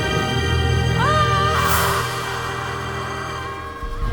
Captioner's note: linda screams